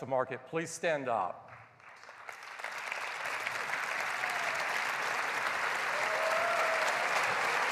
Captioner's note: applause